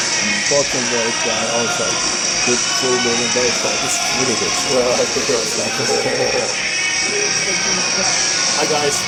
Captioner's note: something in Finnish